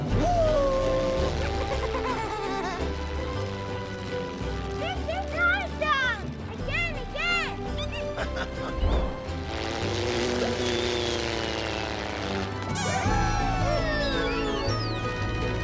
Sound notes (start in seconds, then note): 1.8 laughing; 4.0 airplane flying; 7.7 laughing; 8.5 airplane flying; 14.1 toy squeaks